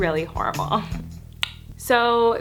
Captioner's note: clicks tongue